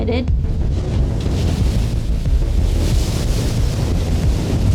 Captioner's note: waves crushing